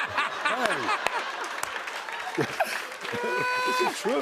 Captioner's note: laughter